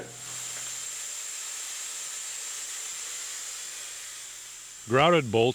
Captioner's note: sounds of Drilling